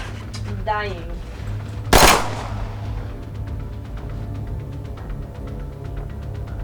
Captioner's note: gunshots boom